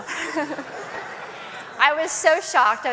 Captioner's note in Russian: Смех